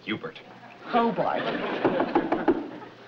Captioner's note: knocking on door